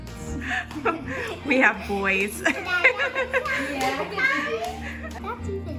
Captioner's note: laughs